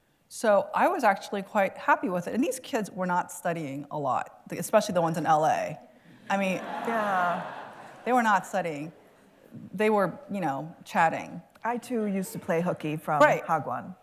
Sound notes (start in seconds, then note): 6.2 laughter